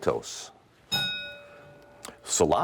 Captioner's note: ding